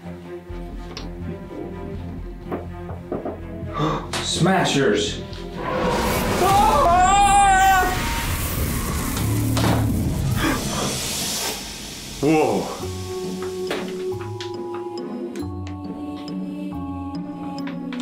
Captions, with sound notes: (gasps) Smashers. (scary music) (dad screaming) Whoa! (creepy music)